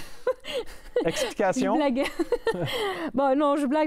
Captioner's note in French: rires